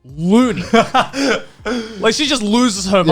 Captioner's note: laughing